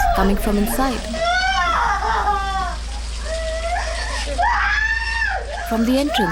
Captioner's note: sobbing and screaming deeply